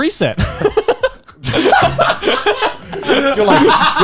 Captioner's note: laughs